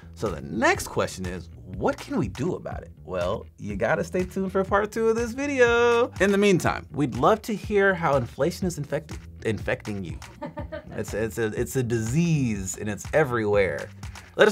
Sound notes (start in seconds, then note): 10.3 woman laughing